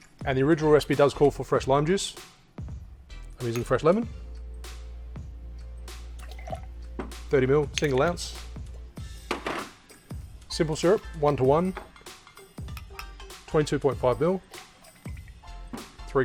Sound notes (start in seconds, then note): 6.2 liquid sloshing; 14.5 liquid sloshing